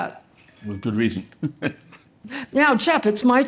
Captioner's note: chuckles